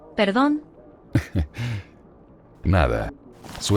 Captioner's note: Teo.L laughs